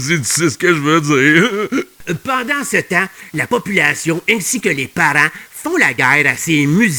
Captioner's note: laughing